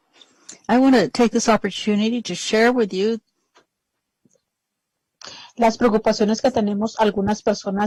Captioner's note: speaking spanish